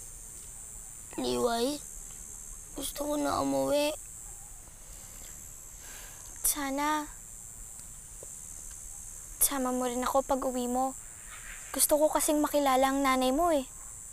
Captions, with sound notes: Liway, I want to go home now. [sighs] I hope... you could take me with you when you go home. I'd like to meet your mom.